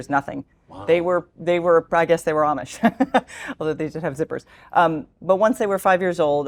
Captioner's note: laugh